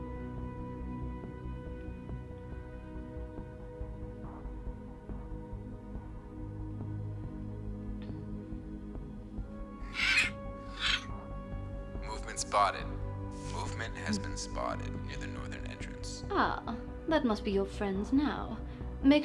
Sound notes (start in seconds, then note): 0.2 foreboding ominous music; 9.8 Marrow squawking